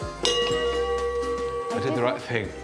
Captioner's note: bell dings